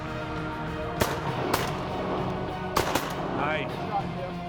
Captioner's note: gun shots